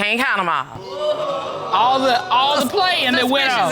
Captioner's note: audience exclaiming